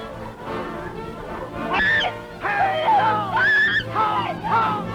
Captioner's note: loud screaming